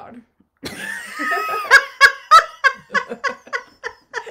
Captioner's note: laughing